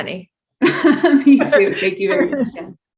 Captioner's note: laughs; upbeat music